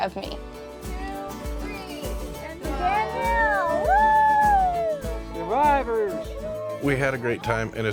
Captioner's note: upbeat music; crowd cheering